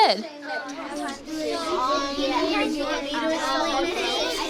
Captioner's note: students chattering